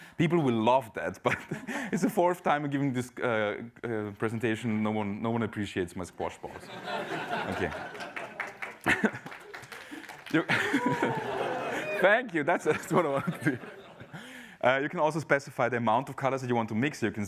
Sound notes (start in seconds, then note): 6.6 laughter; 7.4 applause